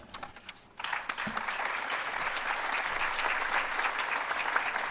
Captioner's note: applause